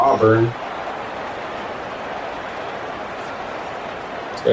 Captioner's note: crowd Noises